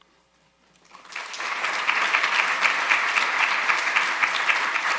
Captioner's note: audience applauding